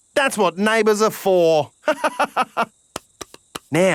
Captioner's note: laughs